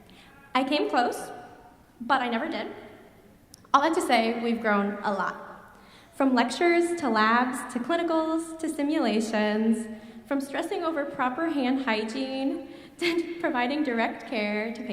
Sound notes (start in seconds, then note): none